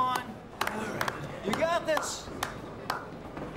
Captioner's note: men clap